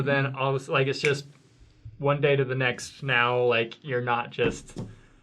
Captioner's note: snaps